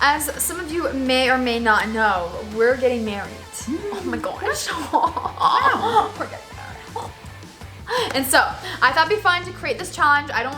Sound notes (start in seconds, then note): 5.3 chattering